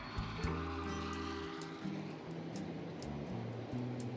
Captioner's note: train whistle